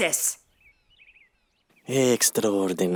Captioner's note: birds chirping